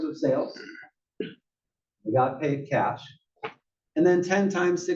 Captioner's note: cough